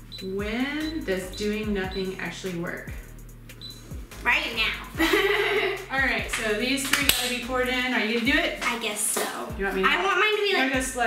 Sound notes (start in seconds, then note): 4.8 laughing